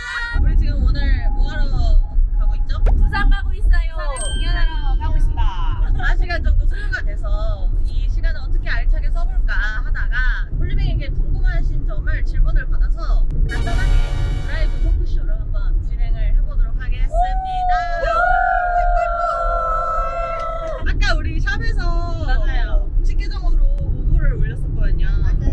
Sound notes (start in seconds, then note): 17.0 exclamation